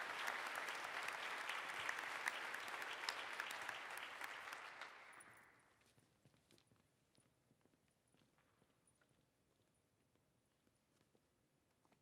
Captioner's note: applause